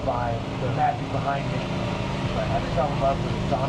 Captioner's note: engine rumbles